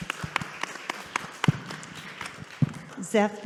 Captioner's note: audience applauding